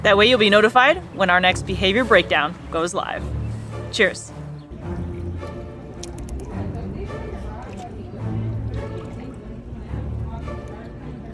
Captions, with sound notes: That way, you'll be notified when our next 'Behavior Breakdown' goes live. Cheers. (background chatter) (instrumental background music)